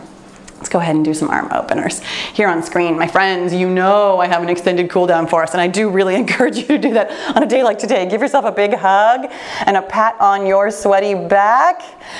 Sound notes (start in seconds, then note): none